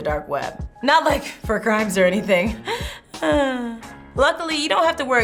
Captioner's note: chuckling